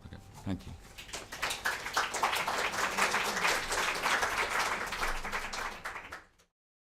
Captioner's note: applause